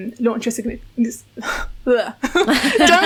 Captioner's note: stammering; laughing